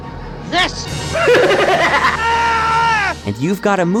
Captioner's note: screams